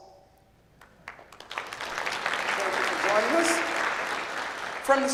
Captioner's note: clapping